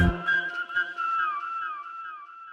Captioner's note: gentle music; artist whistling; gentle music